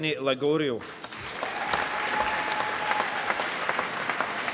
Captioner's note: applause